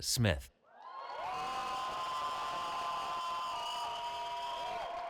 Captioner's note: cheering